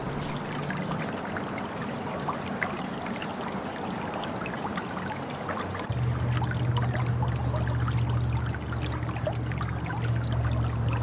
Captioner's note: running water